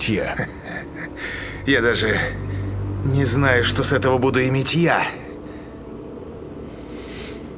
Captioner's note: laugh